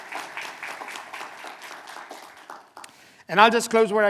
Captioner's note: applause